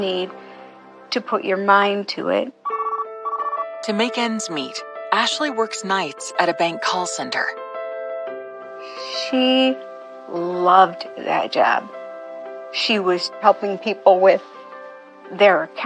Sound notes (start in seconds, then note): 2.6 phohone r rinings